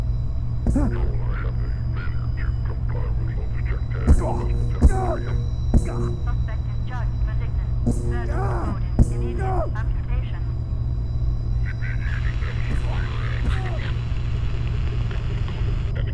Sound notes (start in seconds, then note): 0.1 stunstick hits; 0.7 grunting; 6.5 faint CP radio chatter; 11.5 radio static